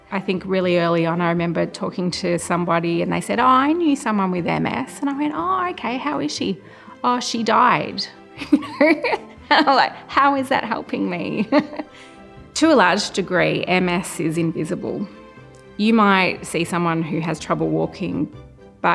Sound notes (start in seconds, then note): 8.4 laughs